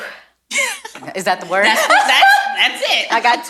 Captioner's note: laughs